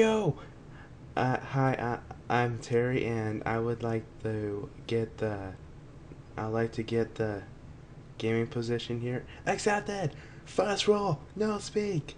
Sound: scared

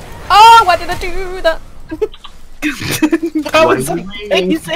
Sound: hahahhha

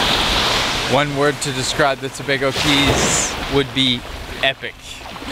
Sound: waves crashing on shore

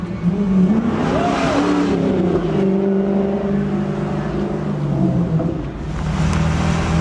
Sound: traffic whooshing; man yelling

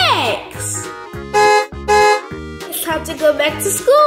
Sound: car honking

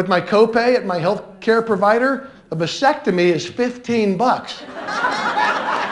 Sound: laughter

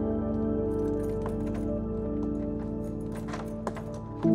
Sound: keys clattering

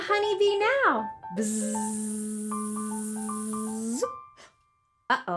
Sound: buzzing

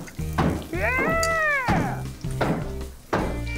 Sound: exclaims

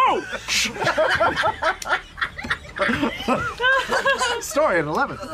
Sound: laughter

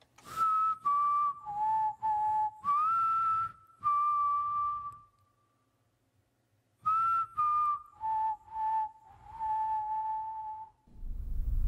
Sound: whistling

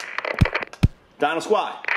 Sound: static sound

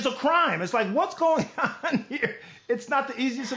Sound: laughs

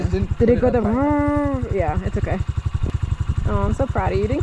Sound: revving noises

